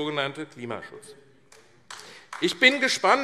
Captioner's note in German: Beifall AfD